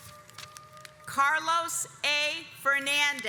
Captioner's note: audience applauds